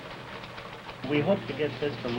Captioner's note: machine clicks